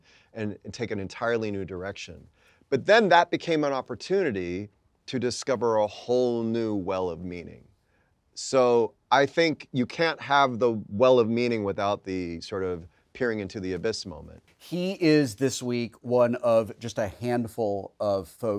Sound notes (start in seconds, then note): none